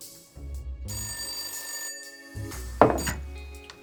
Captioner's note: phone rings